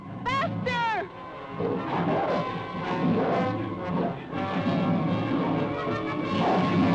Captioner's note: dramatic music; animals bellowing